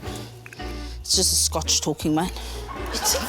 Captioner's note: laughter